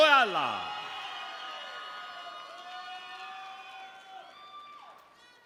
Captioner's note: audience members cheering